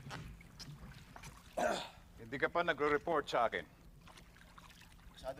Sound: clears throat

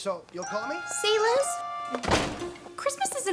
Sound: door shuts

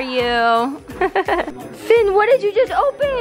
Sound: laughs

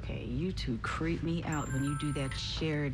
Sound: cell phone chimes and vibrates

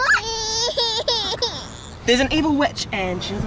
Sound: cries softly

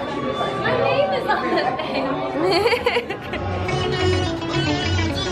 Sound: laughter

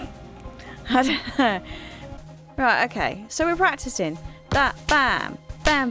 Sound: snickers

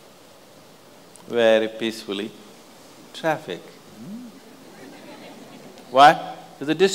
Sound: laughter

